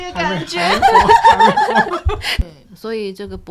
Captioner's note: laughter